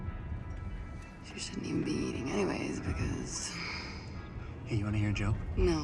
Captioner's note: sighs